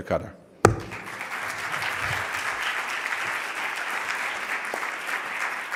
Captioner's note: audience applauding